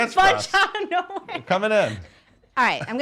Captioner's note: laughs